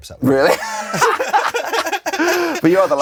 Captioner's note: both laughing